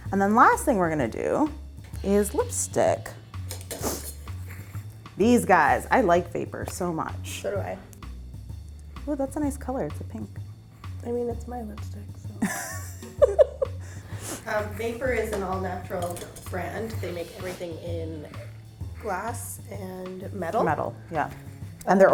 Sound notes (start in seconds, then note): 3.6 brushes clinking; 3.6 sniffling; 12.4 laughing